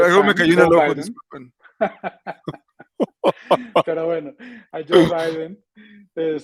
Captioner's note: laughs